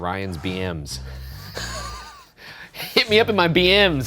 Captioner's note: laughing